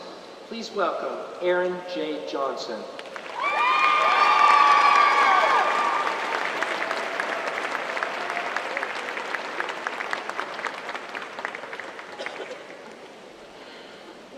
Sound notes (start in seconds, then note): 2.9 applause